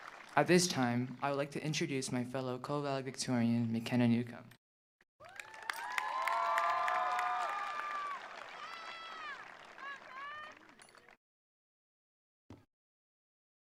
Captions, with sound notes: At this time, I would like to introduce my fellow co-valedictorian, McKenna Newcome. (attendees applauding) (attendees cheering)